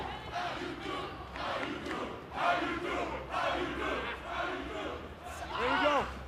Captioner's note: cheers & applause; fans chanting